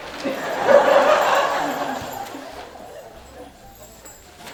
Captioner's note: audience laughing